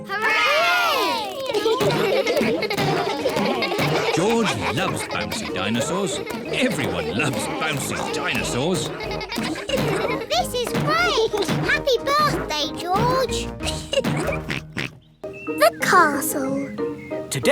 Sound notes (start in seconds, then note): 0.2 kids laughing; 12.0 laughs; 12.0 oinks